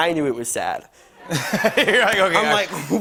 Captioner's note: laughter